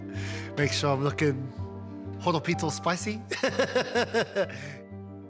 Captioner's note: laughs